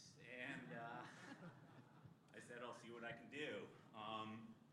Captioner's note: laughter